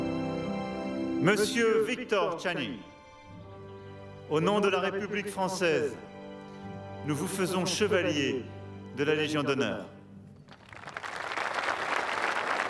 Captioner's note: speaking french